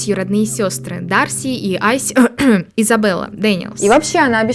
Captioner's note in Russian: кхм-кхм